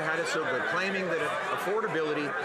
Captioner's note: some Applause